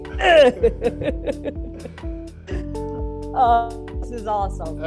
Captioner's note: both laugh